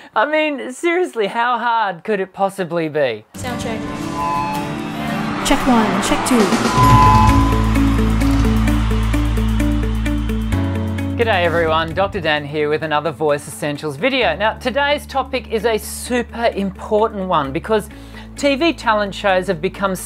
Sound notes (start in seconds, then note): 3.5 mic producing feedback; 5.4 drums pounding; 8.3 bright music